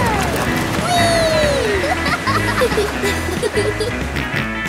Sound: laughing; snorts and giggles

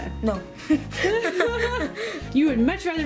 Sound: laughing

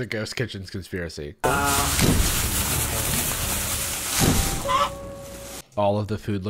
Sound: loud rustling, chicken squawk

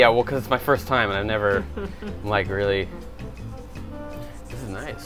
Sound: woman chuckling

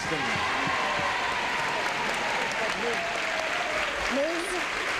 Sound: applause and cheering

